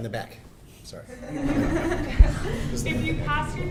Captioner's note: laughter